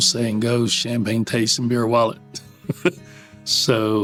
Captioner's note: laughs